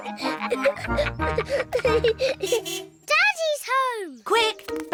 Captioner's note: all laughing; car horn toots